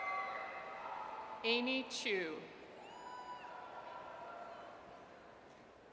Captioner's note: audience cheers